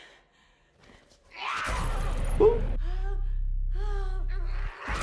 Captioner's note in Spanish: Sue gritando